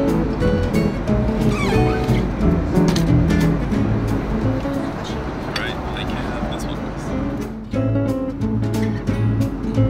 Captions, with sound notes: (plastic squeaking) - Great, thank you. This one.